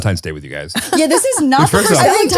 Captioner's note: laughs